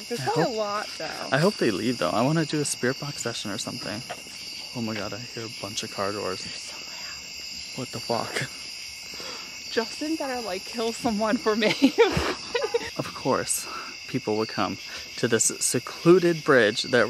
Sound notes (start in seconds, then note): 6.5 whispering